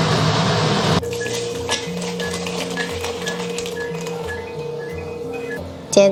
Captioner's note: 天气很潮湿 所以冰箱一直响个不停